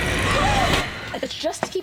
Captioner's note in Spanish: Debra jadea